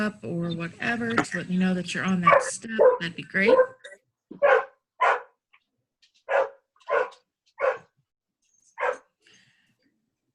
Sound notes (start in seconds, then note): 4.4 dog barks